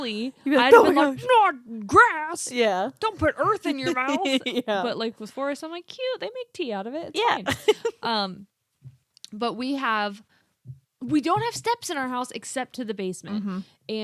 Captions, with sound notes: I'll be like, "Not grass." - Yeah. - "Don't put earth in your mouth." - (laughs) Yeah. - But like with Forest, I'm like, "Cute, they make tea out of it, it's fine." We don't have steps in our house except to the basement.